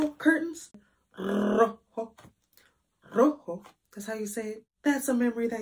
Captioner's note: rolls tongue